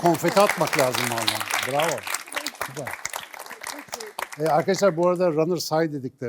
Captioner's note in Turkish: alkış